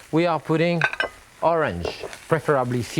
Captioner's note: glass clinks